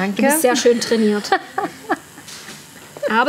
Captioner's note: laughs